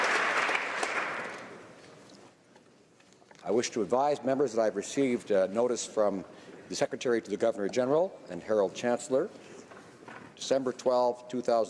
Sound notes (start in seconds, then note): 2.1 applause